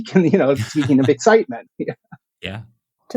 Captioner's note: laughter